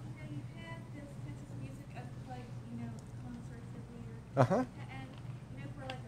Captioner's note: distant audience member questioning